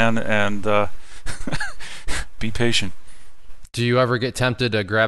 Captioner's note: laughing